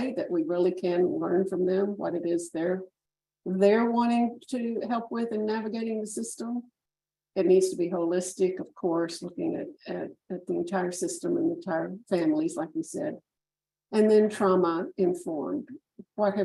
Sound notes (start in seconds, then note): none